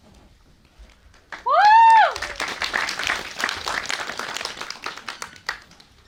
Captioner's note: applause